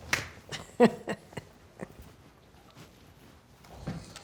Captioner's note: laughing